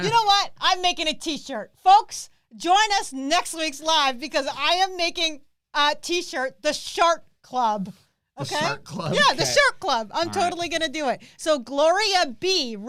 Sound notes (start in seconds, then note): 10.2 chuckles